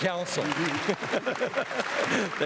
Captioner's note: applause; laughs